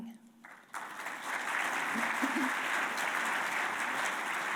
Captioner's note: audience applauding